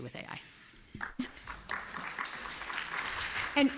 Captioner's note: applause